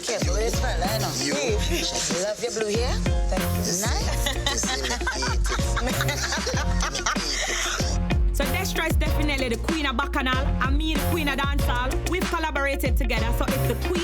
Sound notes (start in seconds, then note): 6.7 group laughing